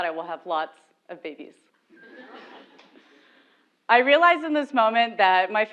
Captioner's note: laugh